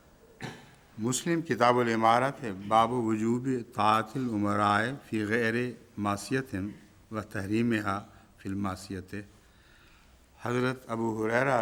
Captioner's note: Arabic